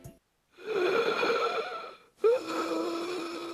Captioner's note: wheezing